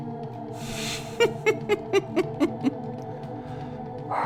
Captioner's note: chuckling